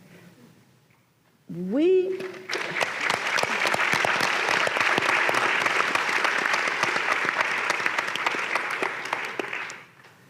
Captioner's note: applause